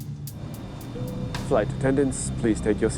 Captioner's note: intercom chimes